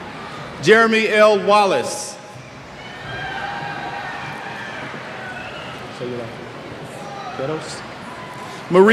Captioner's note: cheers